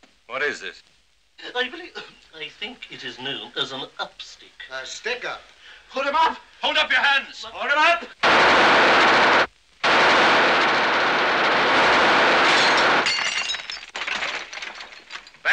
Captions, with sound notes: What is this? (VOICE CRACKING) I believe... I think it is known as an upstick. A stickup. Put 'em up. Hold up your hands. Hold 'em up!